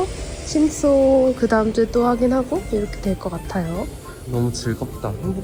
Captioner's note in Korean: 심장소리 💓